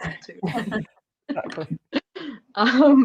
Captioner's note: laughter